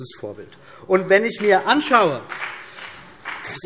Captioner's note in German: Beifall BÜNDNIS 90/DIE GRÜNEN